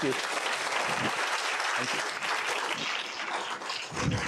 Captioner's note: applause